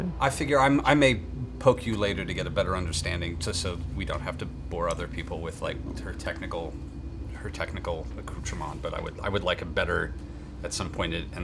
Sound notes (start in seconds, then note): none